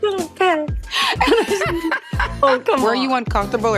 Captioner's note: both laughing